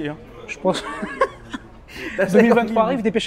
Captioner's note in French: rires